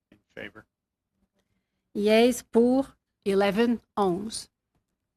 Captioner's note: speaking French